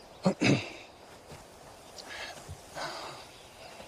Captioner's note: clears throat